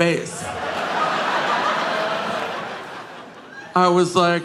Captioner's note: audience laughing